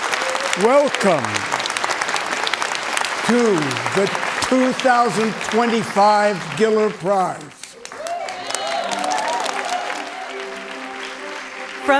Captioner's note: cheering and Applause